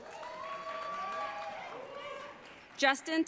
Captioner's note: audience cheering